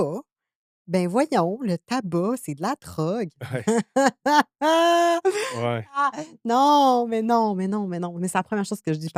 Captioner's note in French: rires